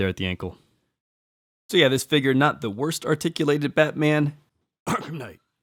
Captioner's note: cough